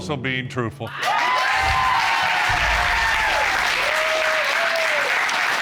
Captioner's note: applause